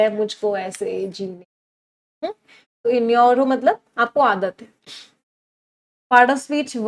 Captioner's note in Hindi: नाक से की जाने वाली आवाज़